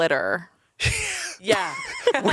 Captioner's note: everyone laughs